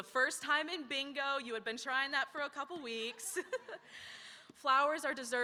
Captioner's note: laughs